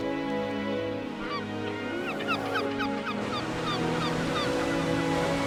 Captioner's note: gulls calling